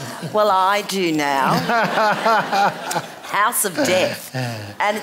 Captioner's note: laughter